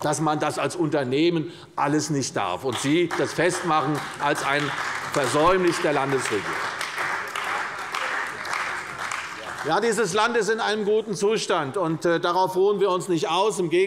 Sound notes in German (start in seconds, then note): 5.8 Beifall bei der CDU und dem BÜNDNIS 90/DIE GRÜNEN